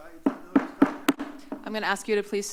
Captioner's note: gavel taps